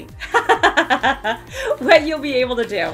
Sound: laughing

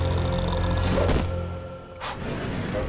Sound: snoring

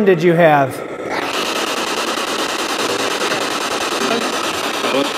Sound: static signaling

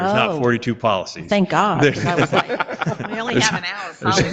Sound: board members laughing

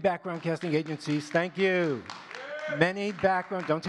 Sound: audience claps and cheers

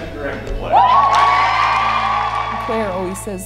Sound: clapping

